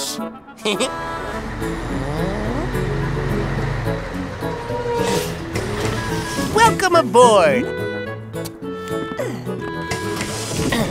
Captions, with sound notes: [chuckles] [brakes squeak] Welcome aboard!